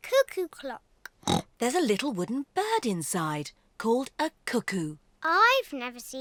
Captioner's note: oinks